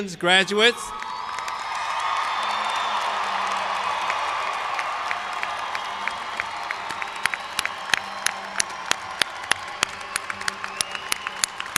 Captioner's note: cheers and applause